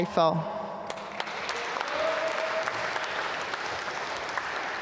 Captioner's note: applause